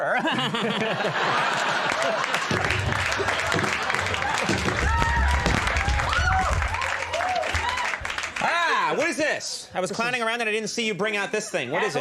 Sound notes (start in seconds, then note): 0.0 audience laughs; 8.4 Conan exclaims